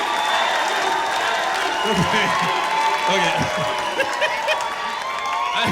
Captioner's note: laughs; audience chanting; laughs